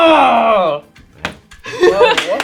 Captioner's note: laughing; clapping